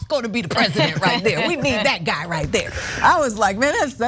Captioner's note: laugh